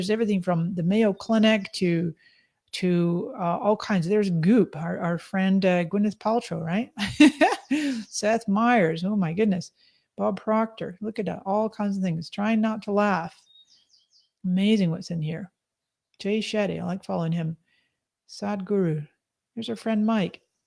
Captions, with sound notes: There's everything from the Mayo Clinic to all kinds. There's Goop, our friend Gwyneth Paltrow, right? (laughs) Seth Myers, my goodness, Bob Proctor. Look at that, all kinds of things. Try not to laugh, amazing what's in here. Jay Shetty, oh I'm following him. Sad Guru, there's our friend Mike.